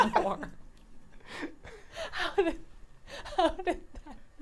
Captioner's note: group laughs